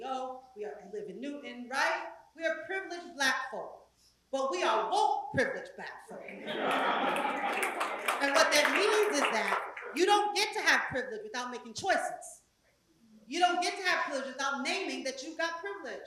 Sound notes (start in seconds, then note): 6.2 laugh; 6.3 applause